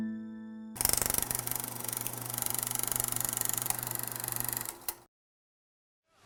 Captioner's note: old film reel noise